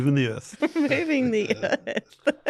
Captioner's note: laughs